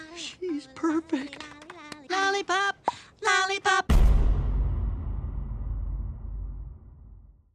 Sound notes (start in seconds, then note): 3.9 boom